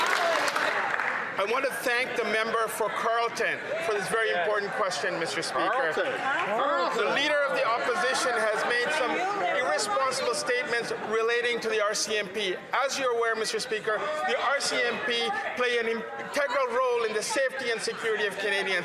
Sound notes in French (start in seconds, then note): 0.0 applaudissements; 4.5 voix de l'interprète